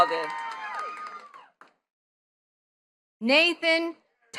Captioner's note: attendees cheering and clapping